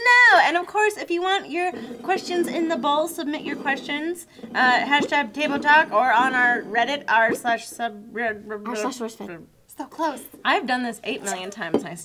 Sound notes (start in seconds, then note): 8.1 mumbling